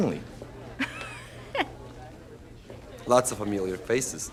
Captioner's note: Maddie laughs